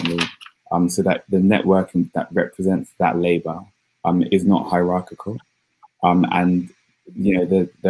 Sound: erm; erm

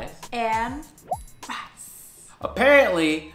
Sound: pop sound

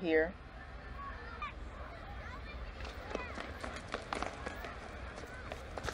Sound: school playground chatter

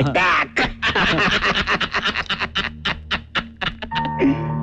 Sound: laughs

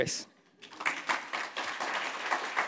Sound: applause

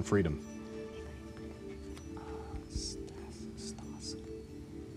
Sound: whispering

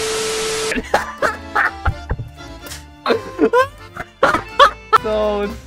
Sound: laughter

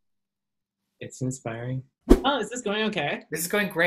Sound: whoosh

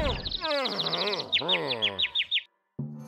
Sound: birds tweeting

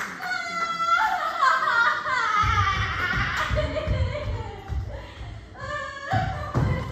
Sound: sobbing

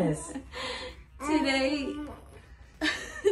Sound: baby coos

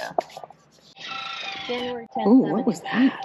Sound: car screeching

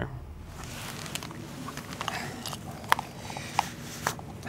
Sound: rustling

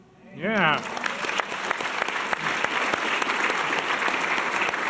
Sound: audience applause

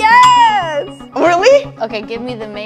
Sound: bell dings

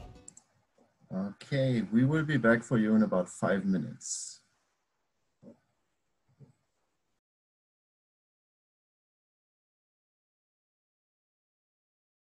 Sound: silence during the break

